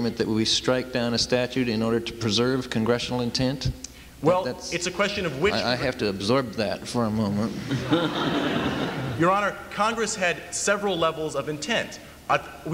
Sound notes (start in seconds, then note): 7.5 laughter